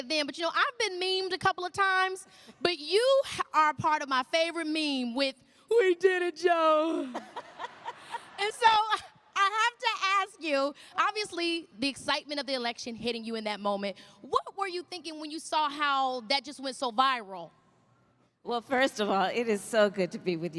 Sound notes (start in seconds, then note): 7.0 laughter